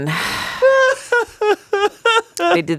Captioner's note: laughs